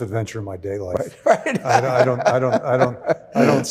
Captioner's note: laughing